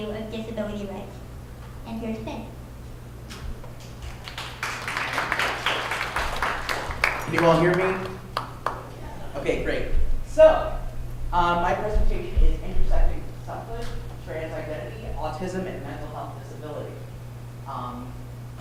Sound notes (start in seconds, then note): 3.9 applause